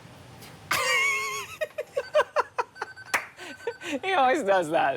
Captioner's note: laughing